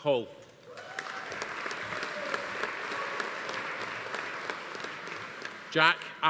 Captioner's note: attendees cheering; audience applauding